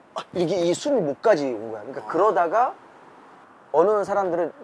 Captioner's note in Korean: 숨막힘